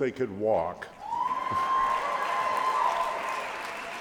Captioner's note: cheering